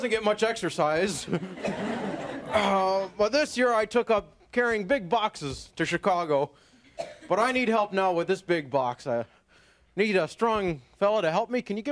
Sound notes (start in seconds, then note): 1.0 audience members laughing